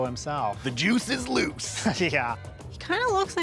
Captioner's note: chuckles